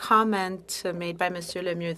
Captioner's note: speaking French